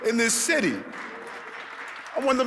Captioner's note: audience clapping